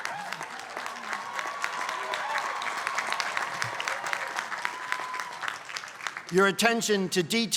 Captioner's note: applause